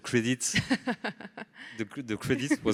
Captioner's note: laughs